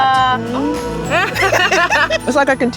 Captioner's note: laughing